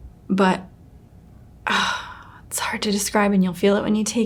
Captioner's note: sighs